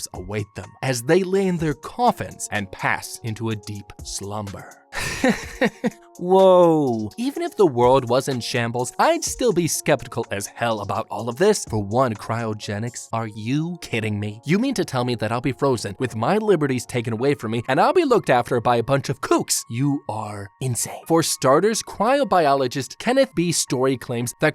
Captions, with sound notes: await them as they lay in their coffins and pass into a deep slumber. hehehe *awkward laughter* Whoa. Even if the world was in shambles, I'd still be skeptical as hell about all of this. For one cryogenics. Are you kidding me? You mean to tell me that I'll be frozen with my liberties taken away from me and I'll be looked after by a bunch of kooks? You are insane. For starters, cryo biologist Kenneth B story claims that.